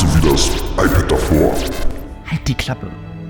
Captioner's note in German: Glitch